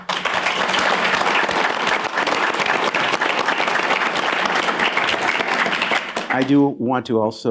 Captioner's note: applause